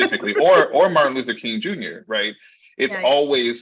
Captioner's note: laughing